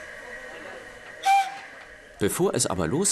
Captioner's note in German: Zugpfeifen